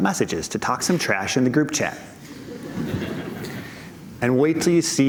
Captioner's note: laughter